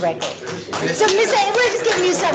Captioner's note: clapping